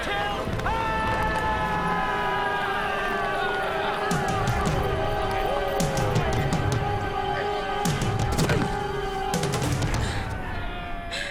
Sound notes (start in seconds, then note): 2.2 cheering; 8.0 thud; 9.9 grunt